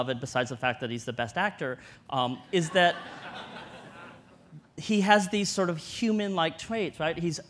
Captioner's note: audience laughter